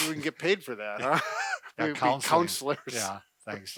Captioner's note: laughing